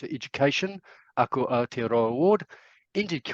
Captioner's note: speaking in foreign language